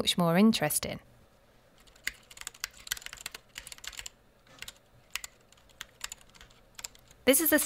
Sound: typing sound

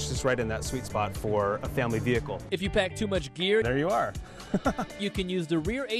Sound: laughs

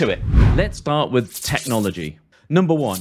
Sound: air whooshing

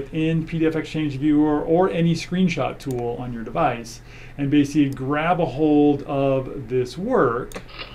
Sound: click noise

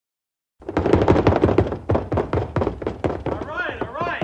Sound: knocks on door

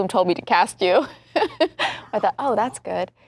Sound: laughing

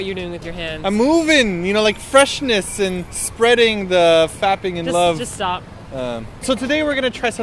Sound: sad noise

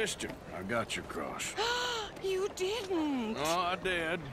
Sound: gasps

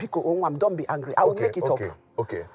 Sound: foreign language

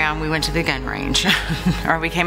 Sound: laughing

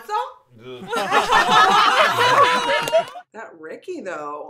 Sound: audience laughter

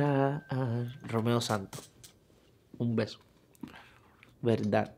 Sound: positive beep; speaking in foreign language

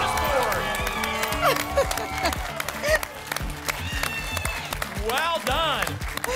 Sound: applause and cheering

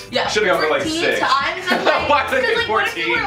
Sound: laughing

